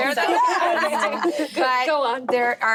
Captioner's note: laughing